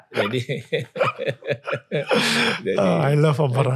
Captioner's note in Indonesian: tertawa